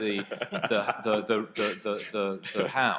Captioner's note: laughing